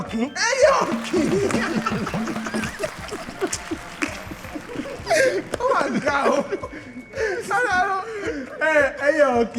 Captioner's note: laughs